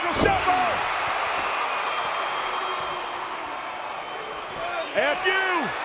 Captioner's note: applause